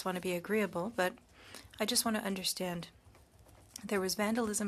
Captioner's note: speaking French